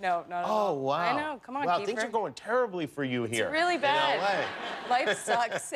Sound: laughter

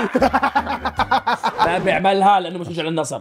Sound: laughing

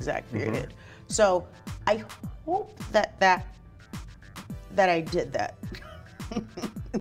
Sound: laughs

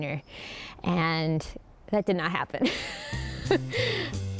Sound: laughs

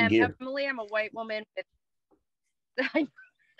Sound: laughing

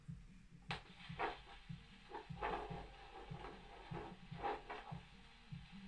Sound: doppler machine crackling

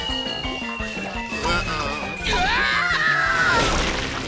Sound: screaming

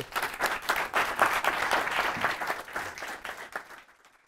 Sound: class applauding

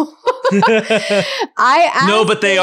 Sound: laughing

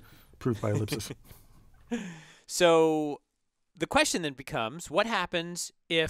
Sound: laugh

